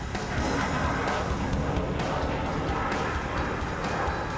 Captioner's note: jet whooshing